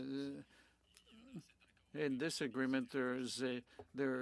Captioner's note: speaking French